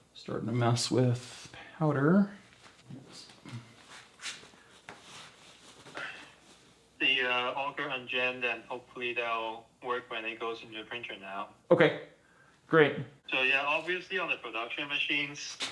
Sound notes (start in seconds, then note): 4.4 mask rustling